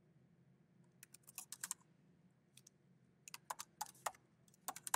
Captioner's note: keyboard clacking